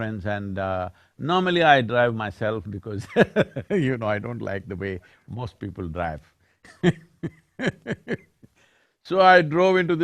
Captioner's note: laughs